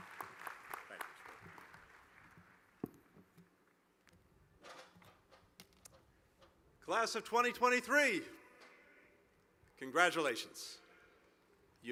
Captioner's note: applause